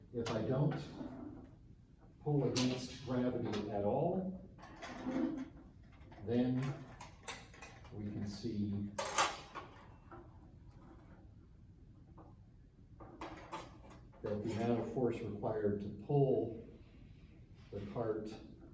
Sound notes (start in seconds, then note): 7.2 objects clattering